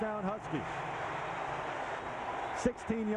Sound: cheering, applause

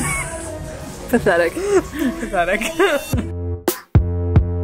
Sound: group laughs; laughs; upbeat electronic music continues

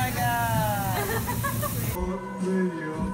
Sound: laughter

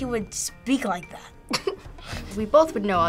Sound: laughs

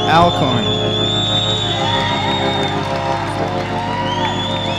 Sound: cheering

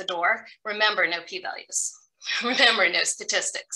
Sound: chuckles

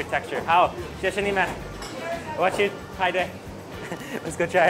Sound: speaks in Chinese

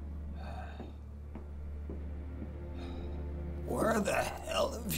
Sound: Mr. Pearson sighs

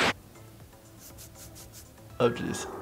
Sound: scratching sound

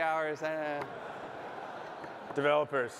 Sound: laughter

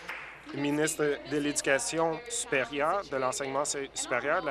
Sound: applause

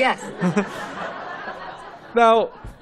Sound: laughter

